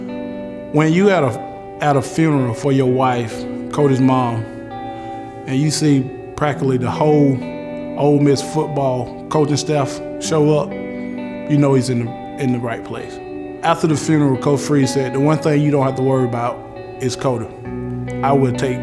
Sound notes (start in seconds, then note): 8.4 electronic music; 14.9 voiceover